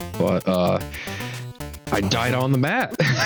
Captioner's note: sigh